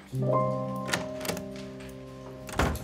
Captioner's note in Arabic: يفتح الباب